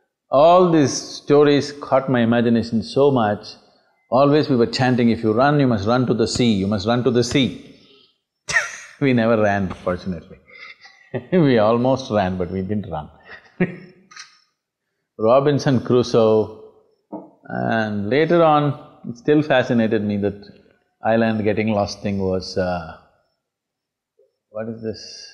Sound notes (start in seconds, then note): 8.5 chuckles; 13.2 laughs